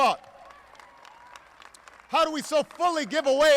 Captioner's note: applause